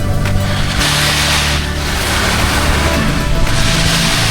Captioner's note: skis scrape